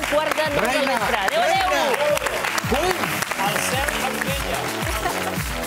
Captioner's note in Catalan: aplaudiments